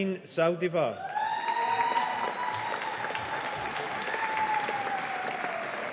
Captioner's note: audience applauding